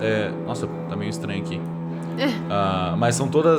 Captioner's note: laughs